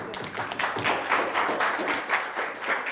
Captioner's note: students applauding